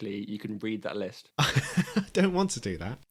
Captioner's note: laughs